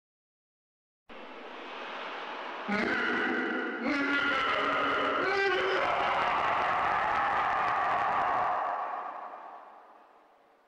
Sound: evil laughing

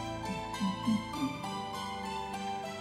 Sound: humming along

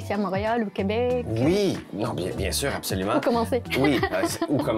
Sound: laughs

